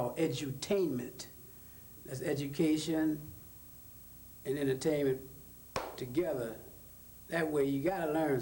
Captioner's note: claps hands